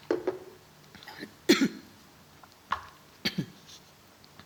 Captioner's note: clears throat